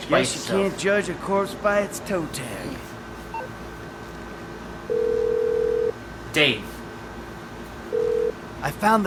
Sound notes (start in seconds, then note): 4.9 phone Rings